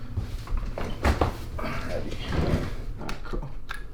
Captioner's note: chair squeaking; sighing